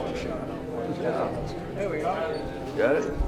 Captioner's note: ambient chatter from crowd